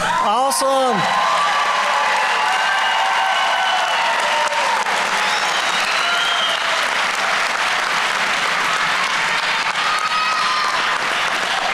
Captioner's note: applause